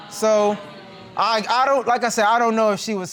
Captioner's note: audience exclaims